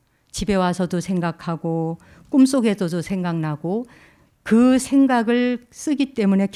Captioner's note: speaking in Korean